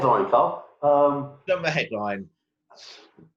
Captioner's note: murmurs